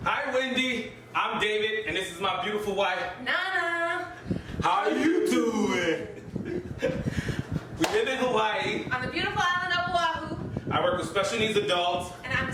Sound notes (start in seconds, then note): 6.0 laughs